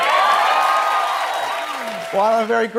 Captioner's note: crows cheers